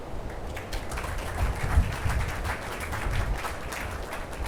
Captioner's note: attendees applauding